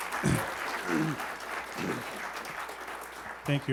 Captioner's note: applause